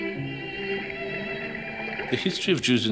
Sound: water burbling

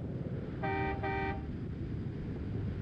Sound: car horn

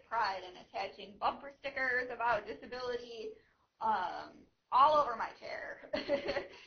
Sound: laughing

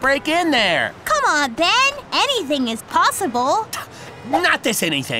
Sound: scoffs

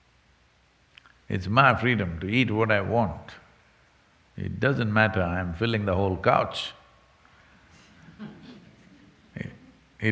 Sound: few laughs

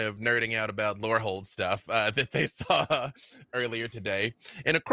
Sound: laughs

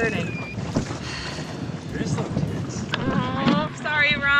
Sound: sighs

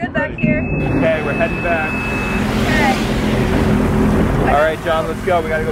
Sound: engine roaring

